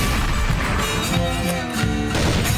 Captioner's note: shotgun blast; gunfire